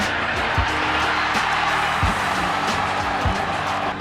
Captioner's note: cheering